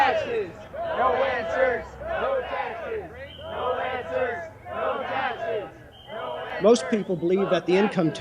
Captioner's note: people shouting